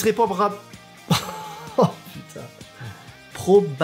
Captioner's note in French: Rires